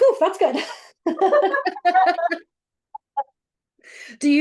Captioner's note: both laughing